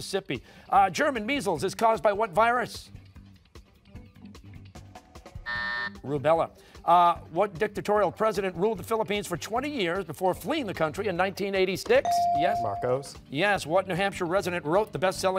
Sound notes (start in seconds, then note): 5.4 buzzer